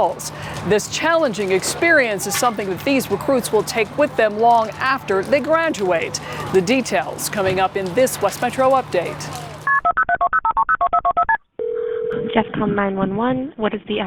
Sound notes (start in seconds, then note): 9.6 dial tone